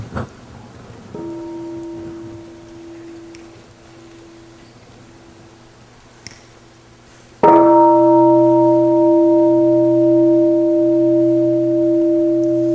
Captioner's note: bell